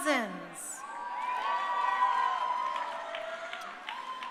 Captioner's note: crowd cheering